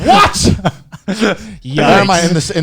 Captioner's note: laughing